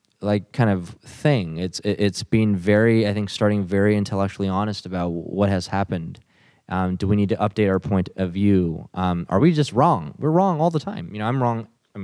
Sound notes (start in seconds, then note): none